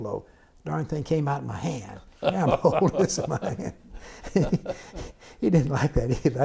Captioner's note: laughter